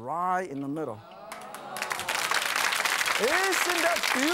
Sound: audience applauds

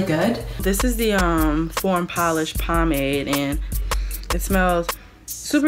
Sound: sniffs

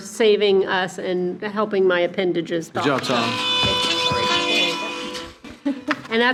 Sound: horn honking

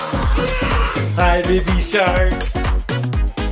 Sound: exclaims; upbeat music

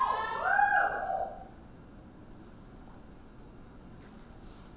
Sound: audience cheering

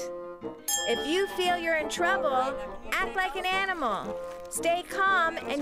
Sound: dings

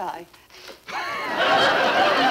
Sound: audience laughing

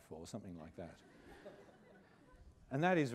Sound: laughter

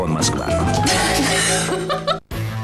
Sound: laugh

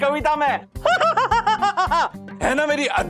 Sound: laughs

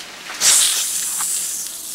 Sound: hiss

